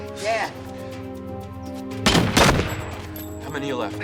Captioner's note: dramatic music; guns firing